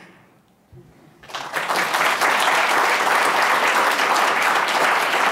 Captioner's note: audience clapping